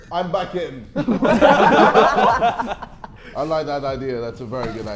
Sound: Sidemen laughing

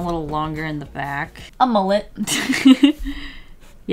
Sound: laughs

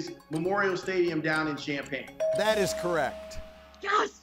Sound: bell dinging

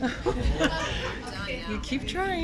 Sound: laughter

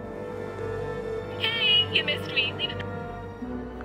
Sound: dialing; voicemail

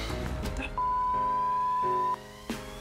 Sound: dramatic music; beep

